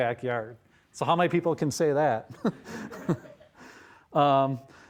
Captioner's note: all laughing